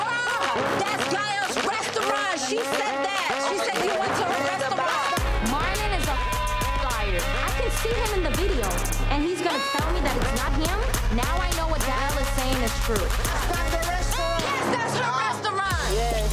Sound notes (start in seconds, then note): 6.7 beep